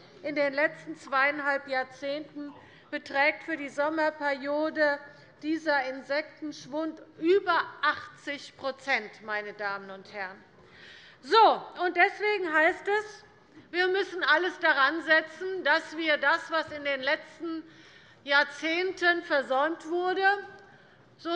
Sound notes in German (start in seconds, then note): none